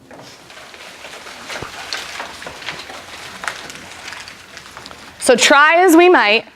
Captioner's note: paper crumpling